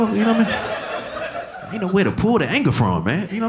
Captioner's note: audience laughing